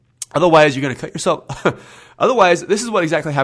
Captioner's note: laughs